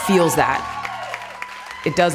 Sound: clapping and cheering

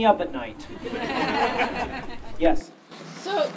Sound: audience Laughing

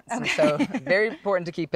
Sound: laughs

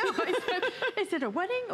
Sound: laughter

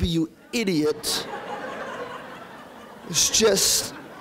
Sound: audience laughing

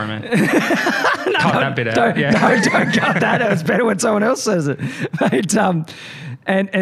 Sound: laughs

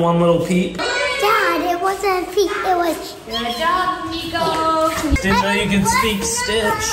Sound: squeaks

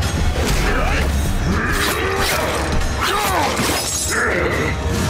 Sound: grunting

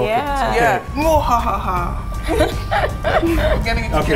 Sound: evil laughing

